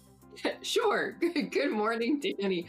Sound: laughs

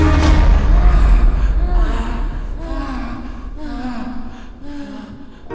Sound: sighs

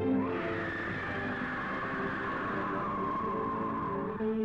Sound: bird screeches

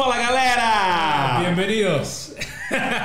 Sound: Spanish

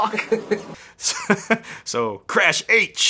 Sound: laughing

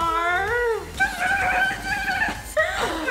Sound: stuttering

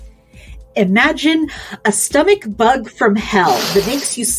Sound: sniffs

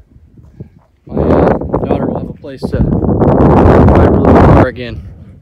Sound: wind drowns out speaker

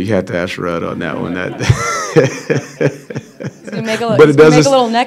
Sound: laughter

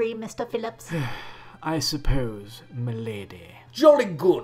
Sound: sigh

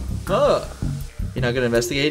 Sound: mockingly

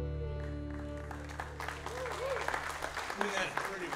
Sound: audience applauding

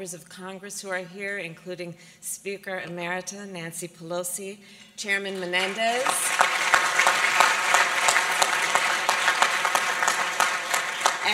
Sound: applause

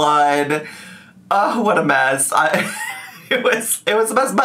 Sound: laughs

